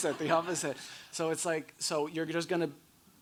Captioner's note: audience laughing; laughs